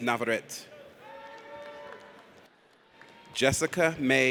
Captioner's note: audience applauds